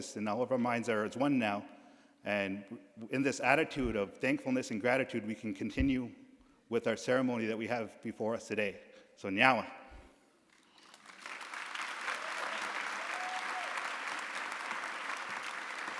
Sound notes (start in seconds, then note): 9.3 speaking in a foreign language; 10.6 audience applauding; 11.4 audience cheering